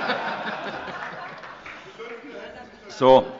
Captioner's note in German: Heiterkeit - Zuruf des Abg